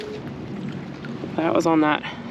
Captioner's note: fish splashing